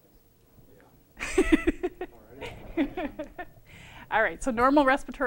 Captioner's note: laughter